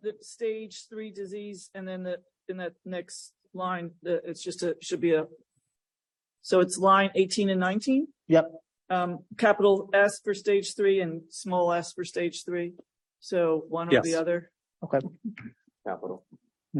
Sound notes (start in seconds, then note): 14.4 laughs